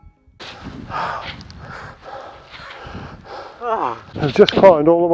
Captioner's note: heavy breathing